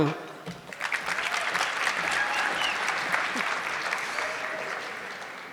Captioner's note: audience clapping